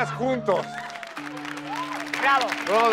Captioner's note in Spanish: Aplausos